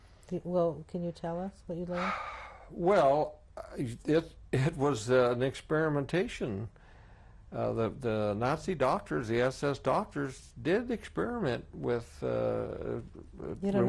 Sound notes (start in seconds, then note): 1.9 sighs